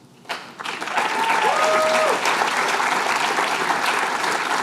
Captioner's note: applause